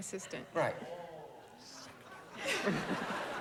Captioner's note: whispers